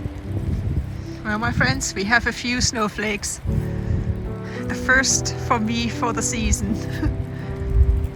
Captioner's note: laughs